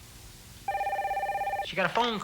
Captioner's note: phone ringing